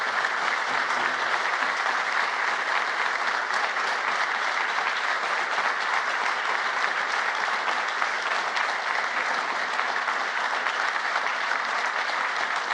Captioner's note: applause